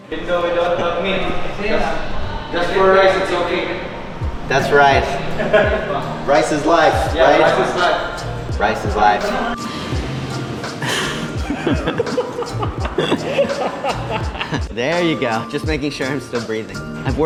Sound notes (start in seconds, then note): 5.3 chuckles; 10.4 laughing